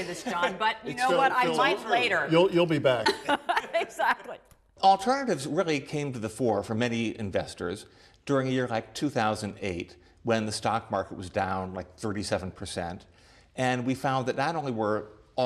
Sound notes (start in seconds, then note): 2.9 laughter